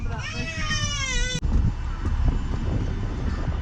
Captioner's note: baby crying